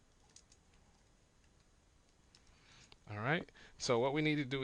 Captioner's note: silence